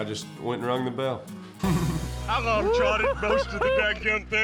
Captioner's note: chuckles